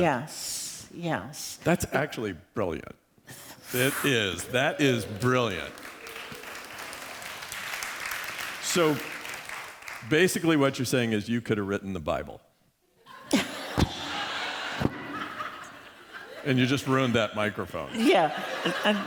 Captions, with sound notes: Yes. That's actually brilliant. It is. That is brilliant. [APPLAUSE] Basically, what you're saying is you could have written the Bible, [LAUGHTER] and you just ruined that microphone.